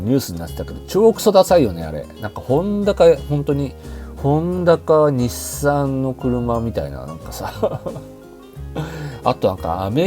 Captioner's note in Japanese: 笑い